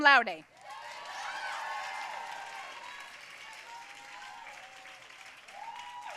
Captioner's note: audience cheering and applauding